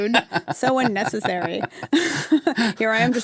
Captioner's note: laughs